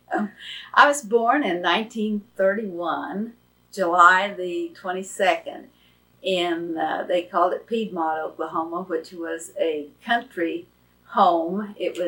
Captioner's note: laughs